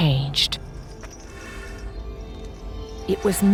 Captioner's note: chains rattling